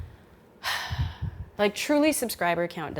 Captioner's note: sighs